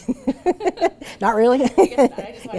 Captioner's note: laughs